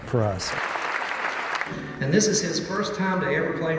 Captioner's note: crowd applauding